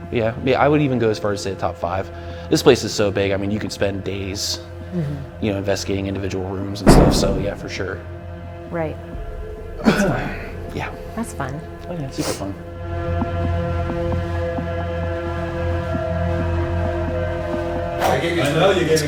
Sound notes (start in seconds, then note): 6.8 thud; 9.8 coughs